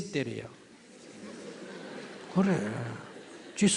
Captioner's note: audience Laughter